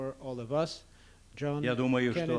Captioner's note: non-english speech